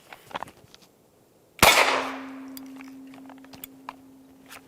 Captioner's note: gunshot